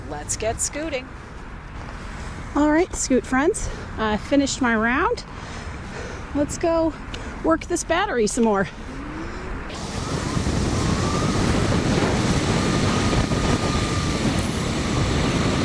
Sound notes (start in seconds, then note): 9.5 whirring and whizzing sounds